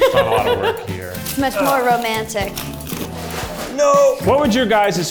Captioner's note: laughs